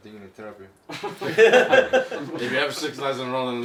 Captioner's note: laughing